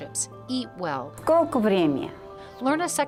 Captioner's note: speaking in foreign language